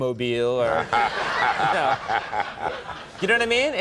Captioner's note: laughs